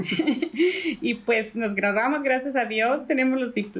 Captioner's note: laugh